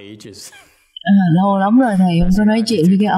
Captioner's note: laughter